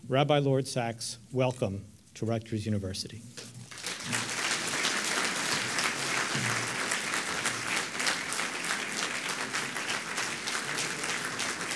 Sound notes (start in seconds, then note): 5.4 audience clapping